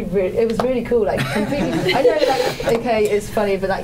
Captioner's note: laughter